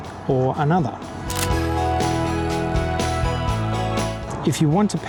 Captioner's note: camera shutter click and music